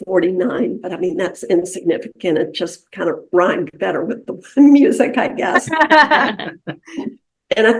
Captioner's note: laughter